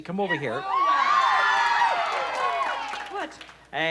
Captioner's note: cheering